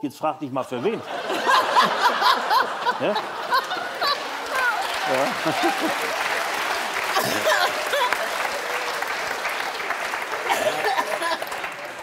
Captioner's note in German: Lautes Lachen und Applaus